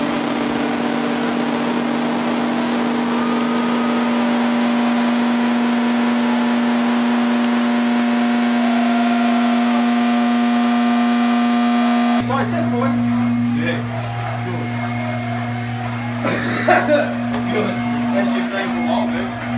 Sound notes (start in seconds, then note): 0.0 guitar feedback noise; 1.9 audience cheers; 8.8 guitar feedback noise; 14.4 audience starts chanting; 16.2 coughs